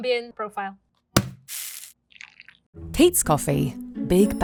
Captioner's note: bag thudding and coffee pouring